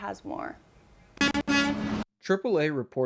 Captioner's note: truck horn honks